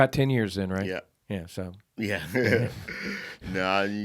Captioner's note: laughing